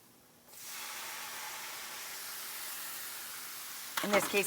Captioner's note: griddle sizzling